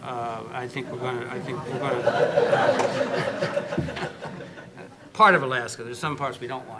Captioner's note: audience laughter